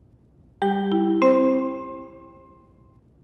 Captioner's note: three Melodic Chimes